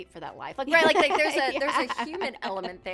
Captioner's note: laughs